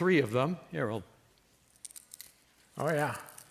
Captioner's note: tin crackling more loudly